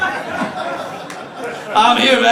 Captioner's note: audience laughs